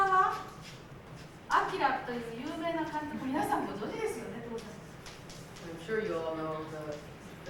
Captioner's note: speaking Japanes